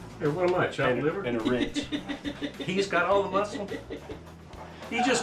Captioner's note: woman laughing